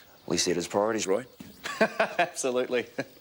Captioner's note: laughing